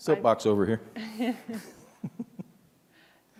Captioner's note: laughs